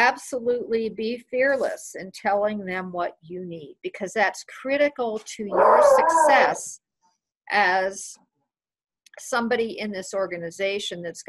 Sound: dog whooing

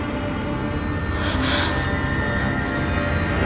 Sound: sighing

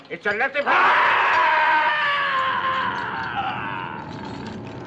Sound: wails

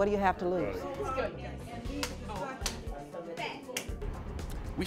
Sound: hands slapping

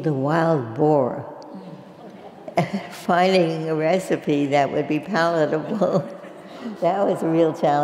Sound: laugh

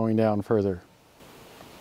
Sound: sound of reamer scraping the ground

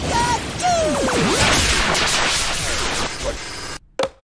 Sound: distorts; clunk-flop

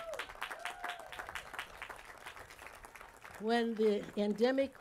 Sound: applause

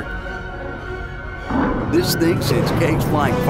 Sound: machine roars

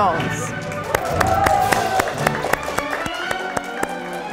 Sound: audience applauding

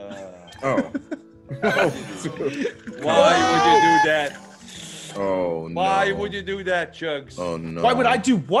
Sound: laugh

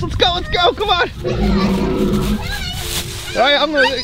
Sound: dinosaur roaring

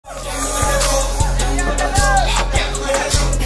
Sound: social Noise

